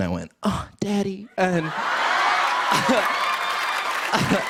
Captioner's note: cheers and applause